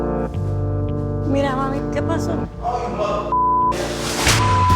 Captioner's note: speaking Spanish